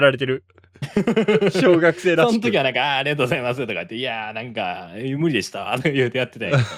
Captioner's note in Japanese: 笑い